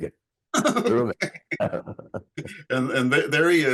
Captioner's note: both laughing; laughing